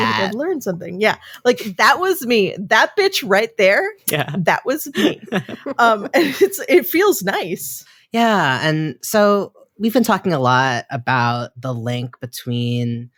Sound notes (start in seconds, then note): 4.9 laughing